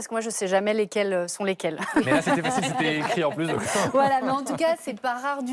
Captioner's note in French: rires